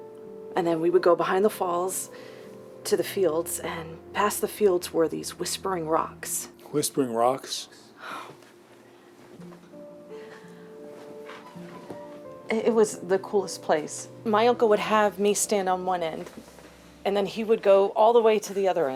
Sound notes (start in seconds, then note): 7.5 scoffs